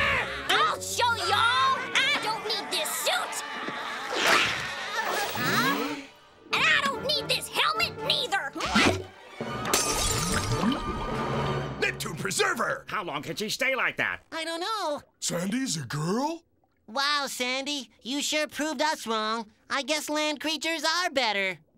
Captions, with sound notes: I'll show y'all! I don't need this suit! [laughing] [gasping] And I don't need this helmet neither! [shattering] Neptune, preserve 'er. How long can she stay like that? - I don't know. - Sandy's a girl? Wow, Sandy, you sure proved us wrong. I guess land creatures are better.